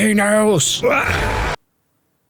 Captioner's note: grunts